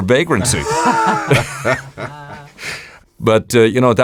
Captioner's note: laugh